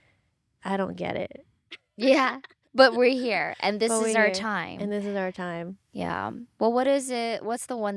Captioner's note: laughs